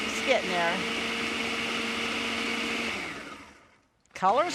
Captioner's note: blender Whirring